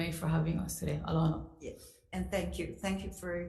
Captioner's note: speaks foreign language